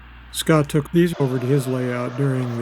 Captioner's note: freight cars